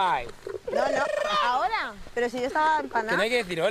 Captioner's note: shouts